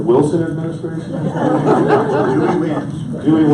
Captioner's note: audience laughs